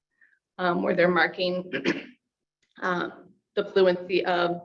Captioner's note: clears throat